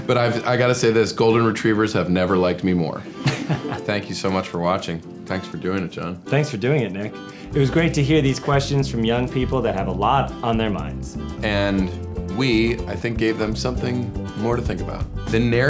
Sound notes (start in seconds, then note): 3.1 laughing